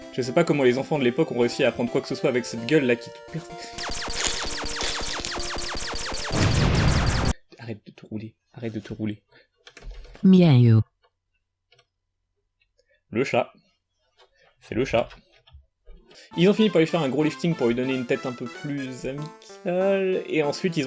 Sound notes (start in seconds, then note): 3.8 pewpew laser sounds; 6.3 explosion